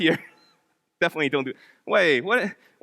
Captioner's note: laughs